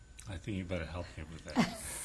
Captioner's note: laughter